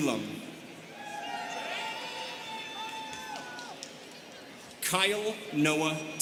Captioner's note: students cheering